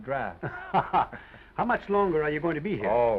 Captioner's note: laughs